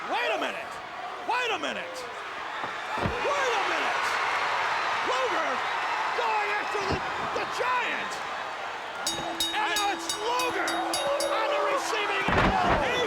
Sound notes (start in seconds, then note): 4.1 crowd cheering; 9.0 bell ringing